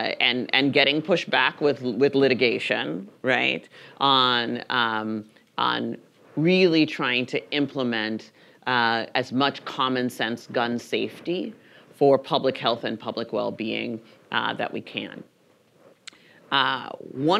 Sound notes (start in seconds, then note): none